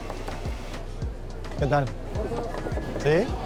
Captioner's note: speaks Spanish